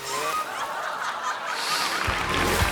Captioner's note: audience laughing; audience cheering